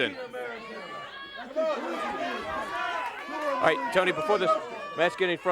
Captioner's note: crowd cheering